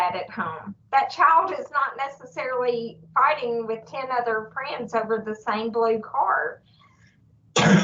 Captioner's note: presenter coughs